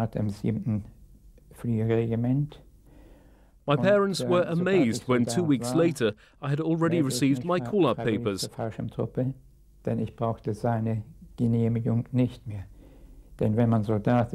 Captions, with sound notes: My parents were amazed when two weeks later I had already received my call up papers. (speaking in a foreign language)